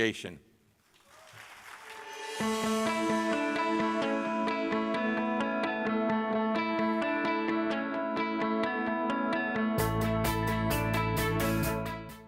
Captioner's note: applause